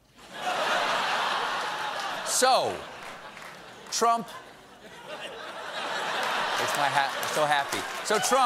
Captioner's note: laughter